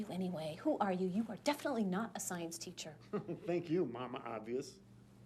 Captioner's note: chuckles